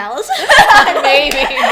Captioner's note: laughs